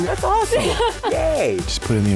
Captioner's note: laughs